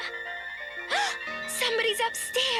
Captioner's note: gasps